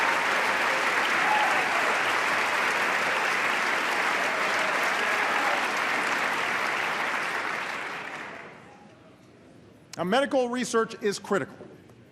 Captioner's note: applause